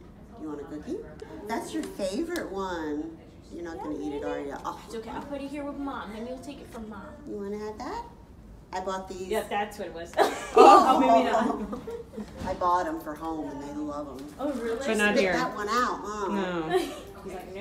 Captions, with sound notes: Do you want a cookie? That's your favorite one. You're not gonna to eat it are you? - It's okay, I'll put it here with mom and you'll take it from mom. - You wanna have that? I bought these. - Yeah, that's what it was. - Ohhh. - Maybe not. (laughing) - I bought em' for home and they love em'. - Oh really? - But not here. - Just not that one huh? - No.